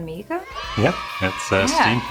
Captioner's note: children cheering